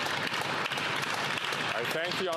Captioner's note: applause